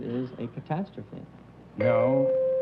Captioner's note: bell